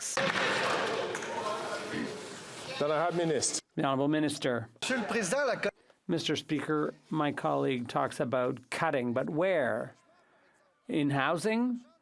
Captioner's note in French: applaudissements